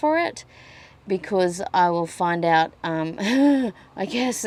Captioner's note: laughs nervously